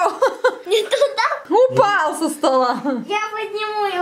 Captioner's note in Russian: все смеются